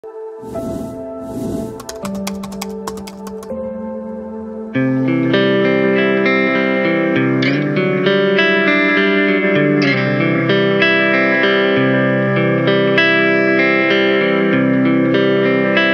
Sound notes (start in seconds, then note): 0.4 phrase whooshes; 1.5 keyboard clicks; 3.2 upbeat music